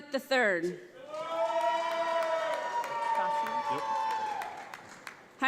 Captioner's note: audience applauds